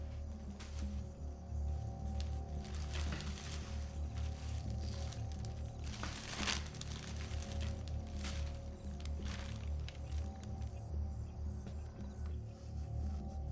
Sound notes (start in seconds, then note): 3.1 paper rustles